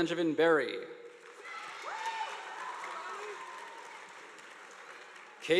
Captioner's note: audience applauding